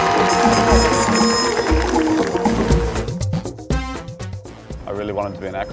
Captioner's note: audience cheering and applauding